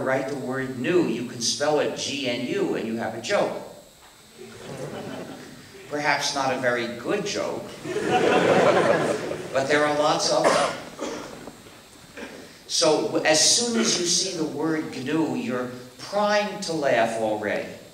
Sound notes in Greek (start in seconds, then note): 4.4 Γέλια από το ακροατήριο; 7.8 Δυνατά γέλια από το ακροατήριο